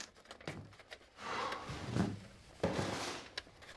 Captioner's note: hawk sighs